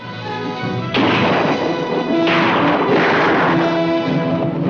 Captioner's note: guns firing